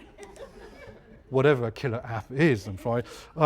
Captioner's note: laugh